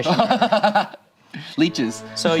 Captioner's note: laughs